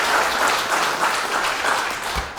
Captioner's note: applause